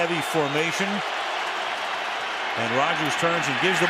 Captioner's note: cheering